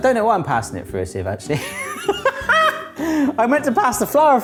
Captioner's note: laughing